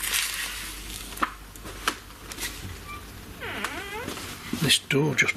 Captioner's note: door creaking